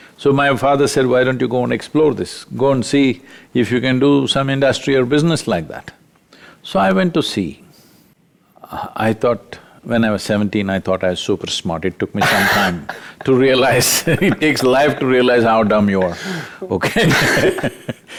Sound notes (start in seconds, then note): 12.2 laughs; 16.7 both Laugh